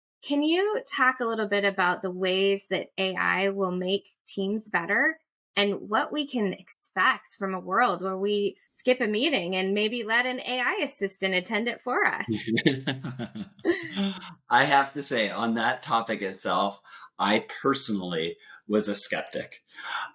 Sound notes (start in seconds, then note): 12.3 laughs